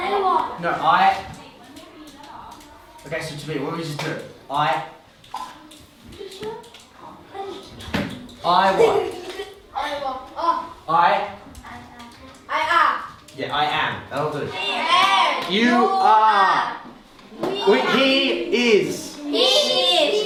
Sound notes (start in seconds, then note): 8.7 child giggles; 15.8 in Unison